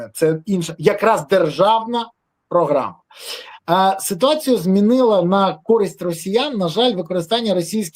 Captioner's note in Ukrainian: сопіння